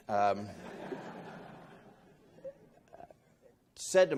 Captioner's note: laughing